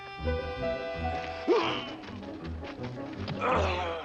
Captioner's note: grunting